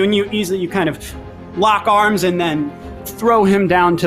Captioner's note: none